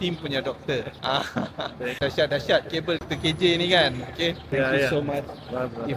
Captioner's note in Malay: ketawa